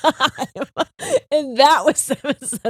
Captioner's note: both laughing